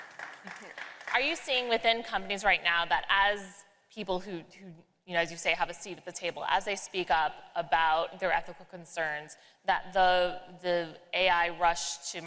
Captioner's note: applause